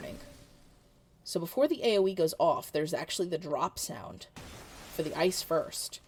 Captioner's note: ice shattering